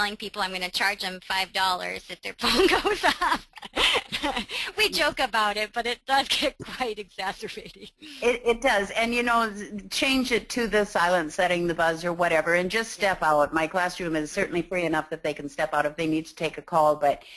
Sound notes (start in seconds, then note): 2.4 laughing